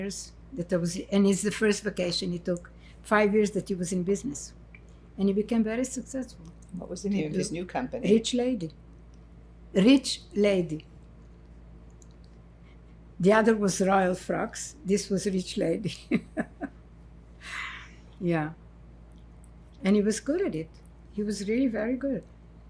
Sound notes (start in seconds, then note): 16.0 laughing